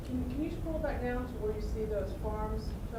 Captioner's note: voiceover